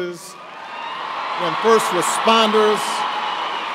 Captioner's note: cheers and applause